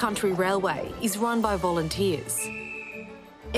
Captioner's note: blows the whistle